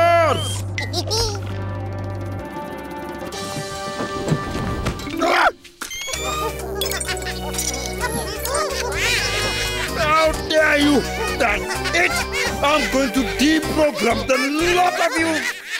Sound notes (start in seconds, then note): 0.2 chuckling; 6.3 Bongolalas chuckling